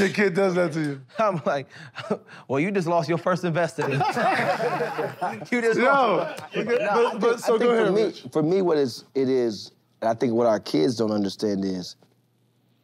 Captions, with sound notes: when your kid does that to you. - I'm like, "Well, you just lost your first investor, then." [laughter] "You just lost"-- - Yo. But--but--so go ahead, Rich. - For me, what it is-- and I think what our kids don't understand is--